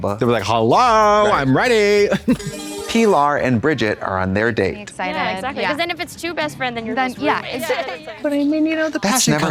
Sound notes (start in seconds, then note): 2.2 bright chime